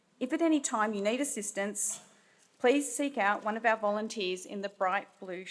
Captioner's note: none